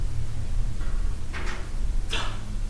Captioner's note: bang